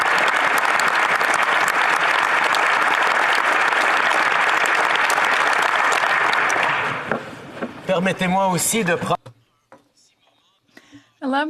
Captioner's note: applause